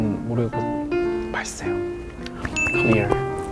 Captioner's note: munch munch